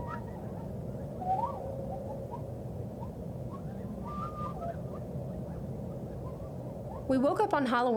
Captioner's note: coyotes howling